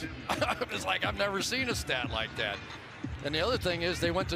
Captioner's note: chuckles